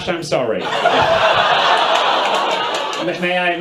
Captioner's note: audience laughs